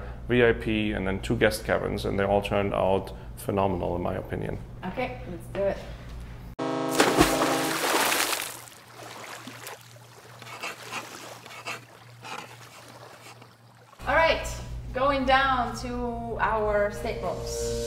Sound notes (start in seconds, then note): 6.6 horn honking; 6.8 water splashing; 10.4 chalk scraping